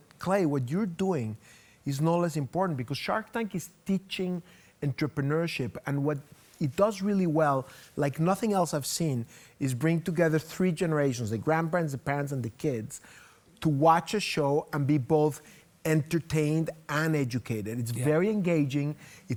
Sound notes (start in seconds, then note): none